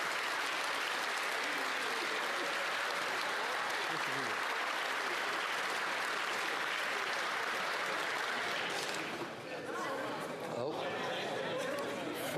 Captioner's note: applause